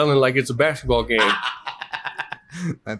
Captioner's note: laughs